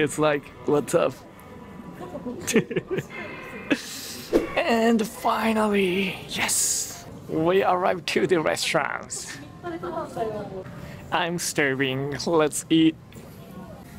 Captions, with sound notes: He's like, "What's up?" [CHUCKLES] And finally... Yes! We arrived to the restaurant. I'm starving. Let's eat.